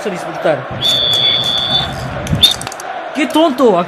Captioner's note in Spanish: Silbato suena